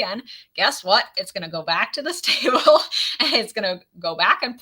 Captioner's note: laughs